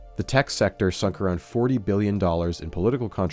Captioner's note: none